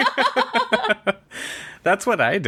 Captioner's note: laughs